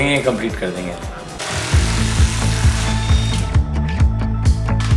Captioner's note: wrench motor whirring sound